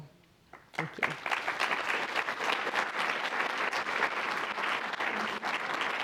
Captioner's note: applause